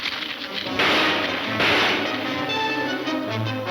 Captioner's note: gunshots banging